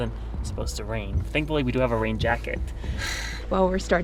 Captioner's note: sighs